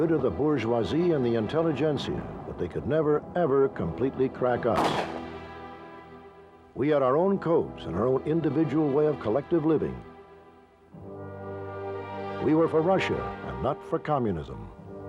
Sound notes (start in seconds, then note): 4.7 gun shot; 10.9 gentle music